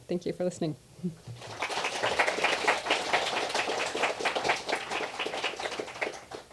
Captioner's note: applause